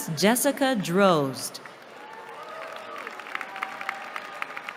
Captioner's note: cheering